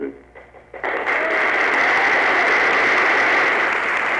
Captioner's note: cheering